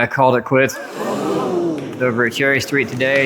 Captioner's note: audience gasps in english